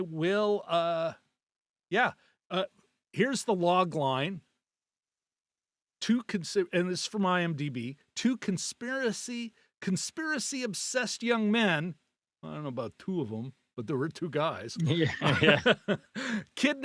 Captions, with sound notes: I will, yeah. Here's the log line. Two, and this is from IMDB. Two conspiracy, conspiracy obsessed young men. I don't know about two of them, but there were two guys. (laughing)